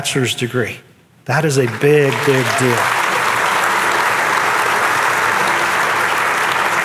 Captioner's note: audience applauding